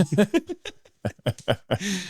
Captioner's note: both laughing